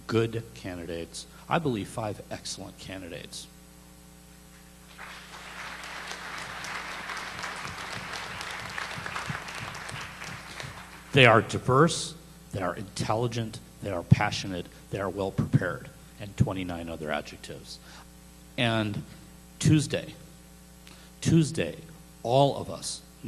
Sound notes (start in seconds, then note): 4.8 applause